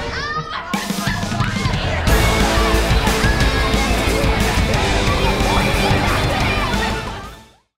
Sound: laughing

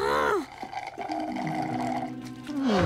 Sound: groaning; slurping

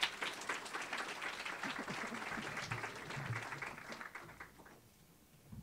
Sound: applause

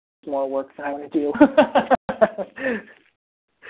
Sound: laughter

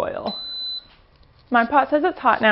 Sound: beeps

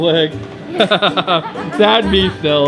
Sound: laughs

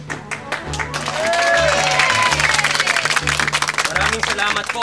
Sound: applause

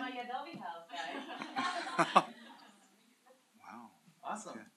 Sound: laughter

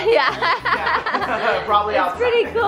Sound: laughter

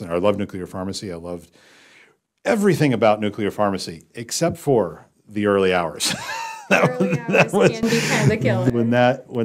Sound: laugh

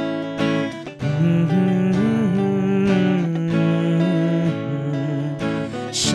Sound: humming

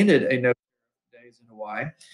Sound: sound mutes

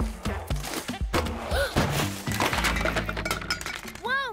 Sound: gasps

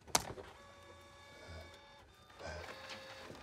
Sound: whirring

